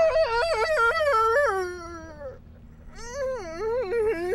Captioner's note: whining